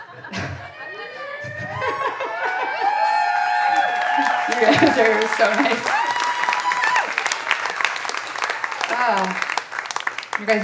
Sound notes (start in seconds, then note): 2.2 audience applauding and cheering; 4.3 chuckles